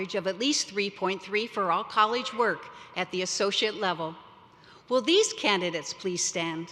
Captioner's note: none